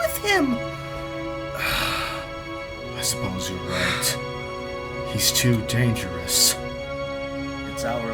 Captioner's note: sighs